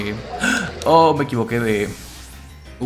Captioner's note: gasps in Spanish